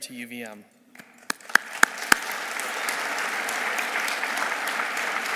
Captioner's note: audience applauding